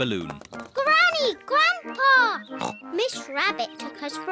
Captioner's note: oinks